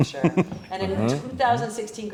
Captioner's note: chuckles